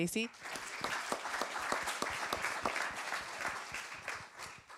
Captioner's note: applause